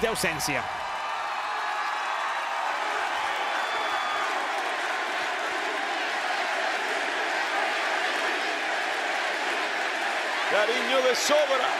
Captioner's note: applause